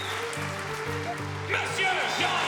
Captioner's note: all cheering and clapping